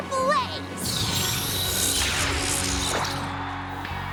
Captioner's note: zap!; crowd cheering